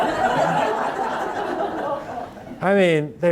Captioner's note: audience laughing